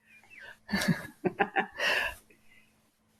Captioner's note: laughing